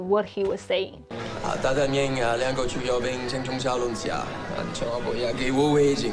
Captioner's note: speaking in Mandarin